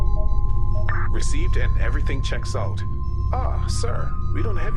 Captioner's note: intercom